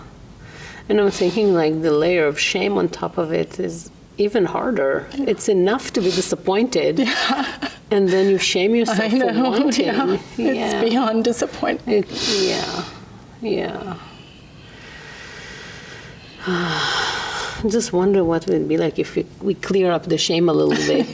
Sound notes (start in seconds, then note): 14.7 exhales deeply